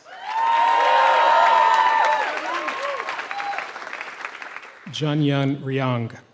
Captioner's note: applause